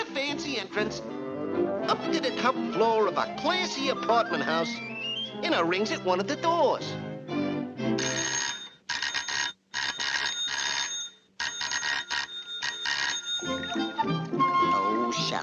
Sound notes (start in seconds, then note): 7.9 doorbell ringing; 13.4 bright music